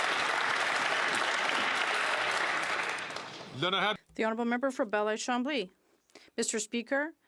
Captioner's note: some Applause